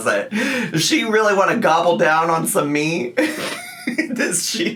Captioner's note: laughs